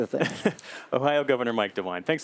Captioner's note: laughter